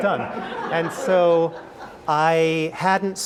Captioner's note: laugh